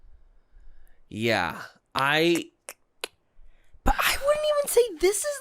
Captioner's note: clicking mouth